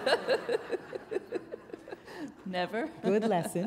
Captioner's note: laughter